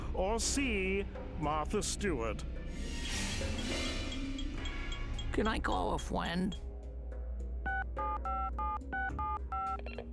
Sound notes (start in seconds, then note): 4.0 timer ticking; 7.6 telephone dialing